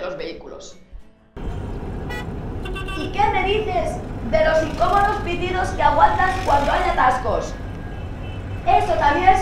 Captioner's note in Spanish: Sonido de coches